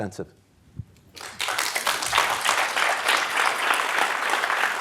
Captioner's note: applause